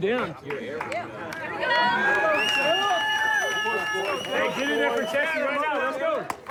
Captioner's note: cheering and applause